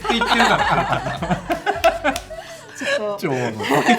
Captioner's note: laughs